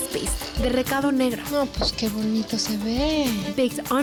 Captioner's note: speaking Spanish